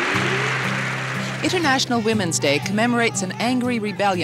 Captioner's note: applause